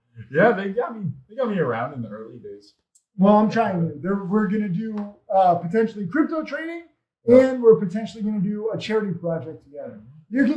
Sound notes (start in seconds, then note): none